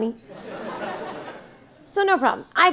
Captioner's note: audience laughing